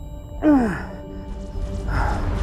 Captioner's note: groan; heavy breathing